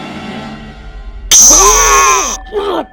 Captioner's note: music intensifies; loud pinprick; scream